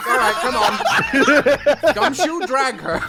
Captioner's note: laughter